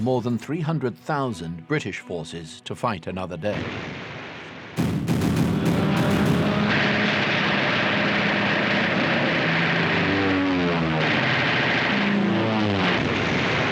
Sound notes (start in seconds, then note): 4.8 guns popping; 4.8 dramatic music; 4.8 planes roaring